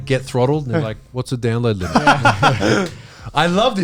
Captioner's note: all laughing